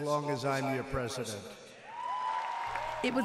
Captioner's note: cheering and applause